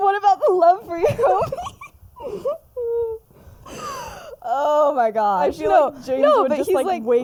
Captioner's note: laughs